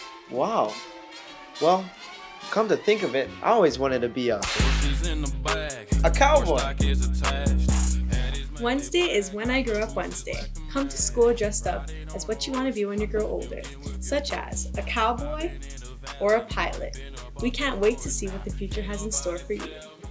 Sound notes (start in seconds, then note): 4.4 whip crack